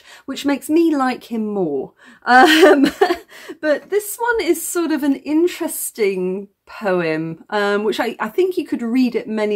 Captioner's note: laughing